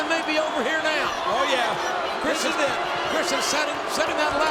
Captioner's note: crowd booing